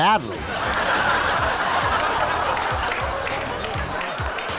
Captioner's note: audience laughs